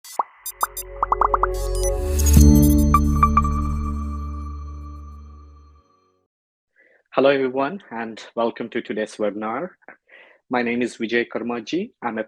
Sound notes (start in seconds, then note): 0.0 device chittering; 0.7 gentle music swelling; 1.0 bubbles continue popping; 1.0 bubbles popping